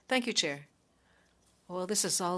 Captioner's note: speaking French